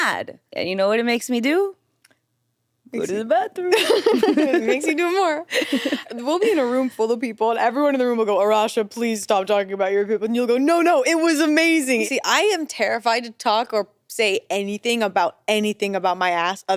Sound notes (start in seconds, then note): 3.7 everyone laughs